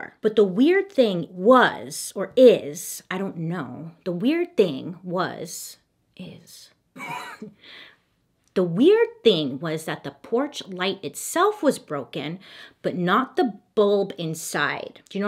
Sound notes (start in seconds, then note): 7.0 chuckles